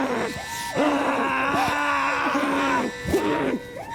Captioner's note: both groaning and screaming